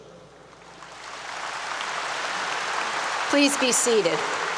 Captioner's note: applause 👏 👏